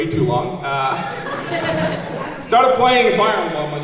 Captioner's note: laughing